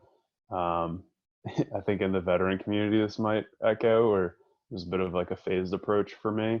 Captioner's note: laugh